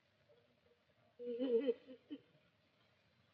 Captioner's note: sobs